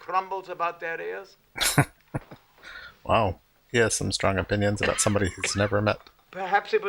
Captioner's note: chuckling